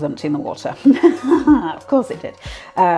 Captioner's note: sardonic laugh